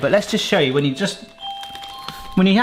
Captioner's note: doorbell rings